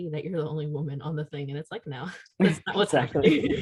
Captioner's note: laughter